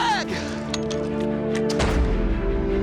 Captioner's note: musket shooting